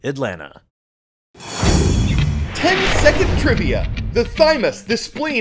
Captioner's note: voice-over